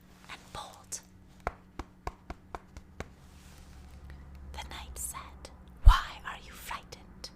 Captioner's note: ASMR tapping sounds